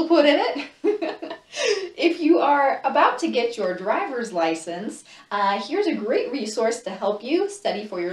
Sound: laughs

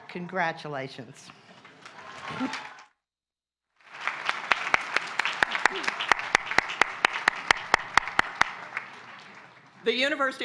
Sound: applause

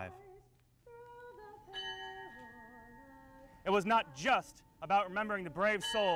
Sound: bell toll, bell toll

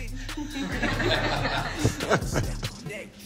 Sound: everyone laughing

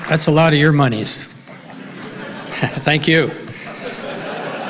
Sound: laughs

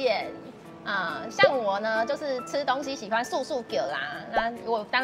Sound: Taiwanese

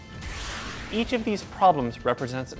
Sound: swooshing

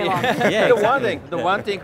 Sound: all laugh

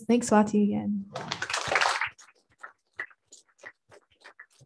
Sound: applause

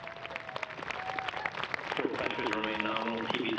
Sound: cheering and applause

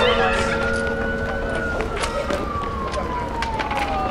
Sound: siren blaring

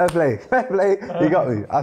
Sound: guest laughs

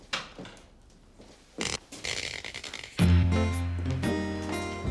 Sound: lights buzz

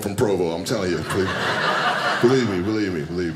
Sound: audience laughing

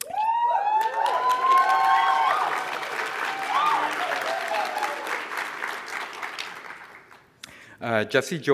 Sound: applause

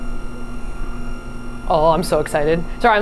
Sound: machine whirring; machine whirring continues

